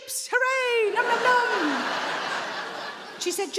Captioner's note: audience laughing